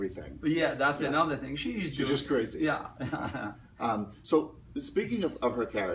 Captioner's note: Tommy laughs